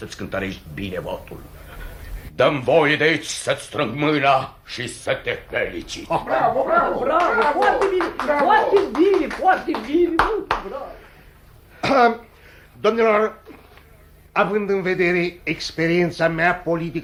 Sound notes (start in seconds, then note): 9.8 applause